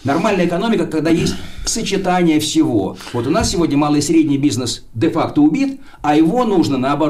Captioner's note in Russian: откашливается